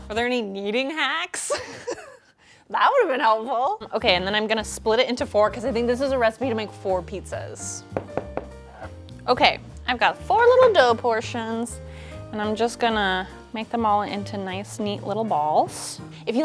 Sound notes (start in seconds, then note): 1.5 chuckles; 7.9 soft knocking